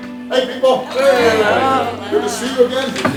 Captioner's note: audience greeting